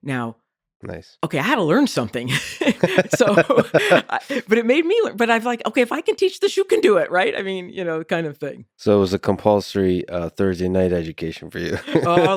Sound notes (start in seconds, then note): 2.3 both laughing